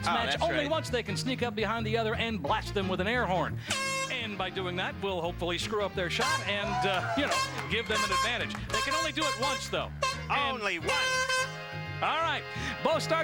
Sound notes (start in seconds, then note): 3.6 honk; 6.0 honk; 10.0 honk honk